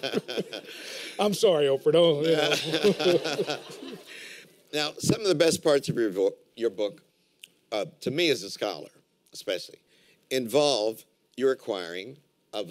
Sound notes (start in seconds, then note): 2.3 laughter